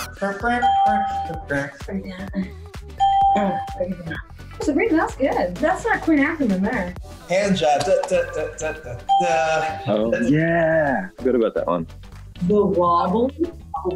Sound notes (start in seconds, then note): 0.2 ding; 0.5 electronic noises; 3.0 ding; 8.7 hums